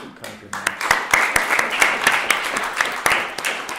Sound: applause

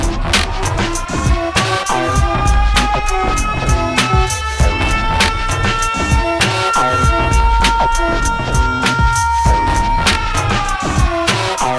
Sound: sirens

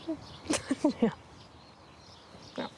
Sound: chuckles

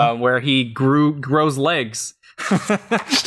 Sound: laughs

